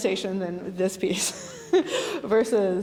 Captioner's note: laughing